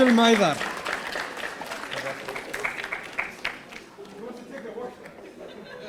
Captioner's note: audience applauding